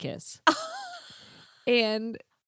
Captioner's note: laughing